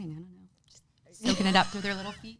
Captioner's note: laughs